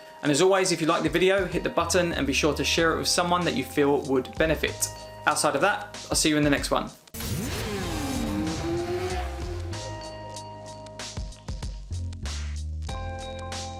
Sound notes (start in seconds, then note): 7.2 motorcycles revving; 7.2 smooth music